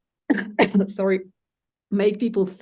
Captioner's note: coughs